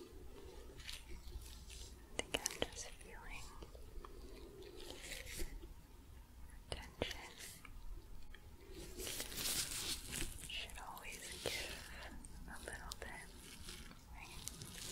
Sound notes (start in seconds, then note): 8.2 glove sounds